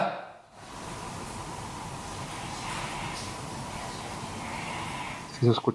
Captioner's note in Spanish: SUSURROS - Audio aumentado